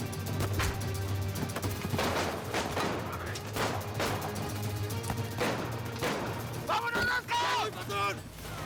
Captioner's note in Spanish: tiroteo